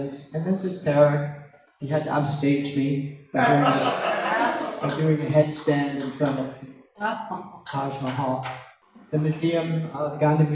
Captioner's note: laugher